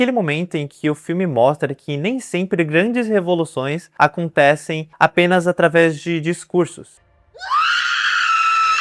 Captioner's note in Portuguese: grito